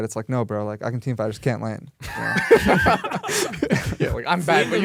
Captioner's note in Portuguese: risos